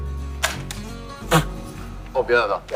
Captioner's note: laughing!